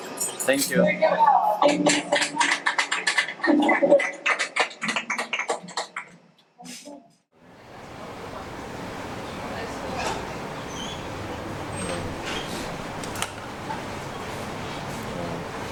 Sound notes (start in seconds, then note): 2.1 applause; 7.3 quiet cafe ambient